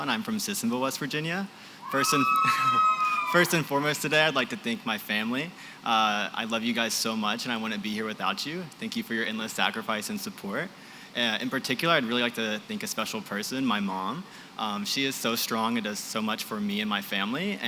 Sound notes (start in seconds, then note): 1.8 cheering